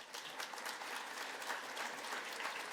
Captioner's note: applause